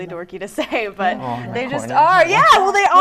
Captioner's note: laughing